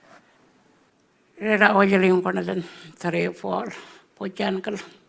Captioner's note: speaking Anmatyerr